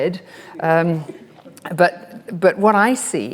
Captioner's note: audience laughs